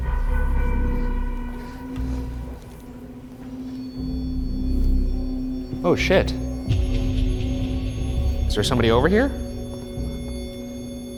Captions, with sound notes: Really quickly, I'm gonna get that. (REM-POD beeps) Oh shit, is there somebody over here?